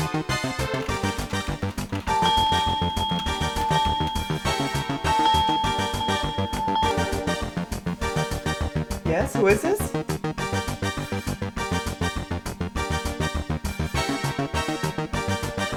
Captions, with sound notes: (phone ringing) - Yes, who is this? (spirited music continues)